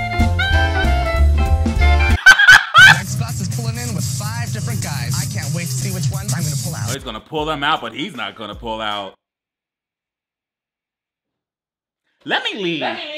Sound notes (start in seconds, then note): 0.0 upbeat jazz music; 2.2 laughs